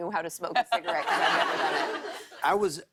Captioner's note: laughter